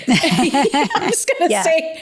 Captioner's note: both laughing